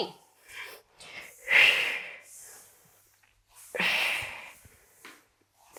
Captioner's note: breathing sharply